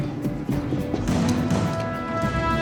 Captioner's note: voices whispering; footsteps thudding; intense dramatic music